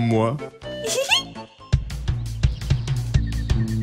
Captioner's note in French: voix de femme